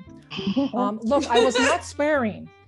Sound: audience laughing

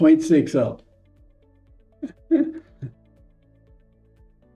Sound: chuckles

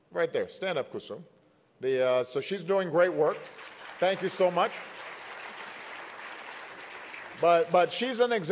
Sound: applause

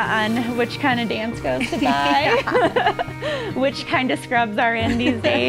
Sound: laughs

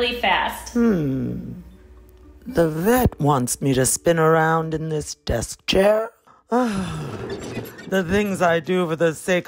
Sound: squeak

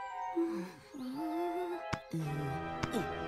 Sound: Hogi whimpering; person grunting

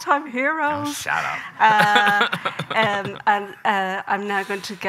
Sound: laughs

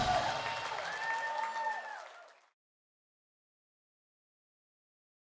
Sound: crowd claps and cheers

